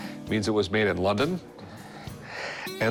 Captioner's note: Rick exhales